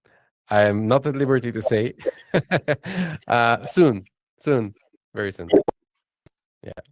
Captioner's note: laughs